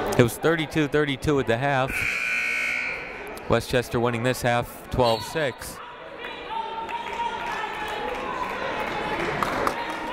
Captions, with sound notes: It was 32-32 at the half. (buzzer ringing) Westchester winning this half 12-six. (people shouting in the crowd)